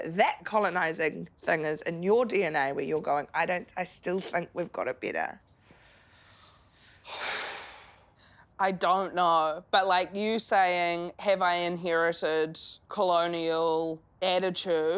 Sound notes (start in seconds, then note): 6.9 breathing out loudly